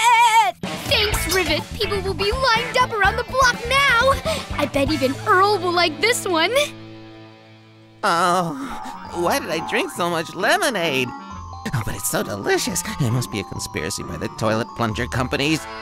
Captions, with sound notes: THanks, Rivet! People will be lined up around the block now! I bet even Earl will like this one. [ groaning ] Why did I drink so much lemonade? Oh, but it's so delicious! It must be a conspiracy by the toilet plunger companies!